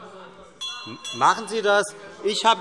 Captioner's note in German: Glockenzeichen